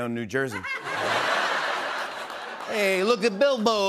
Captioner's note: laughter